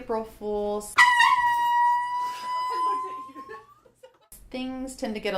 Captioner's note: loud air horn